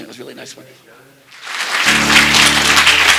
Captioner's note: applause